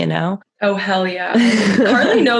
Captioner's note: laughs